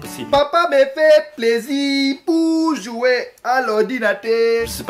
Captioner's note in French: attention accent africain